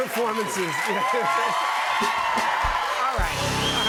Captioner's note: cheers and applause